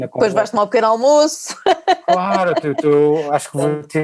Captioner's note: laughs